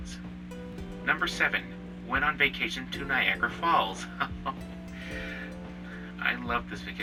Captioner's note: chuckles